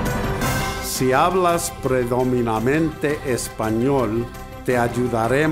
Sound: speaking in Spanish

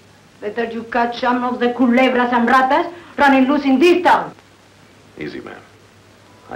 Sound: Rosa speaking in foreign language

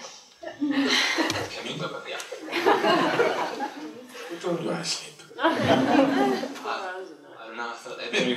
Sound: laughter

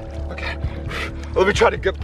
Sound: breathing heavily

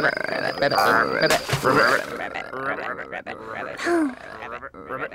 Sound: sobs

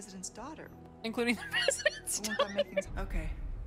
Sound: laughing

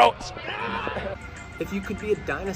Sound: screaming

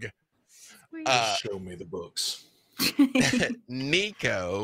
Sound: laughing

